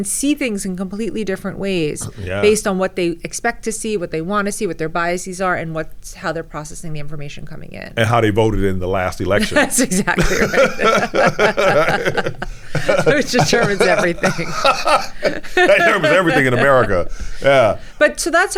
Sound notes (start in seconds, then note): 11.1 both laughing